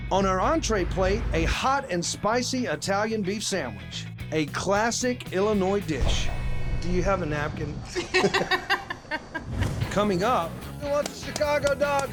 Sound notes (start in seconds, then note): 7.9 laughter